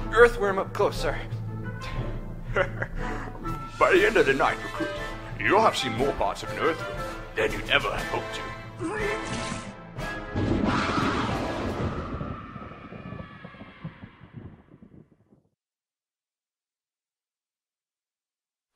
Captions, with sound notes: earthworm up close, sir. Heh heh, by the end of the night, recruit, you'll have seen more parts of an earthworm than you'd ever had hoped to. *vomits* *screams* *thunder*